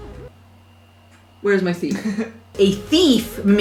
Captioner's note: laughter